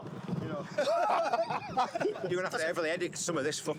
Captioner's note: laughs